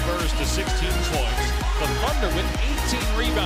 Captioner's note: horn